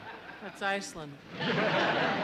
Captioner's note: laughter